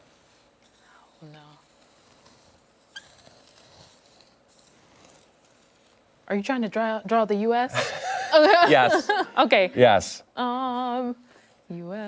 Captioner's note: laughter